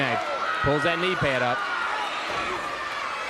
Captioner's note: crowd cheering